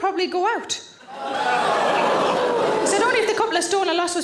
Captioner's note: audience exclaims